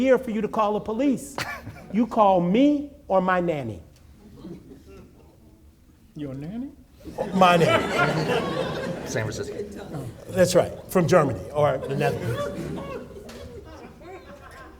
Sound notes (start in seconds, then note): 8.5 audience laughing